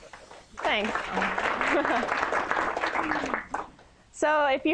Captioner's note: applause